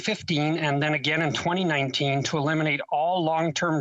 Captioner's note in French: voix de l'interprète